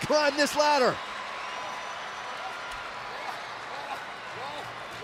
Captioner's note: crowd cheering